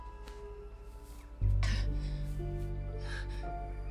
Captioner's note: panting